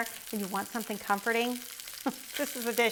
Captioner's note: chuckles